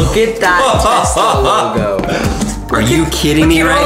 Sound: laughing

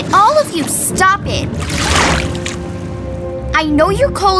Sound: water sloshes

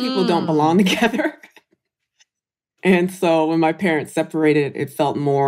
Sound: laughs

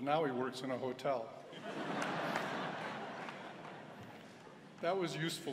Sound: laughter

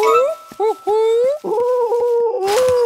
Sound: cooing

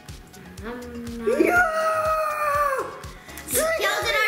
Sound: shouts

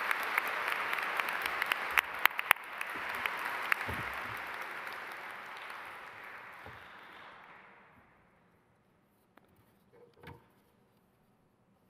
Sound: applause

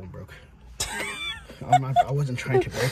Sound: laughs

